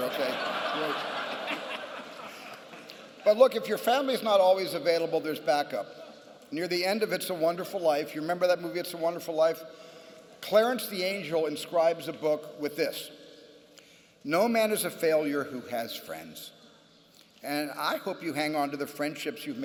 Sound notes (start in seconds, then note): 0.0 laughter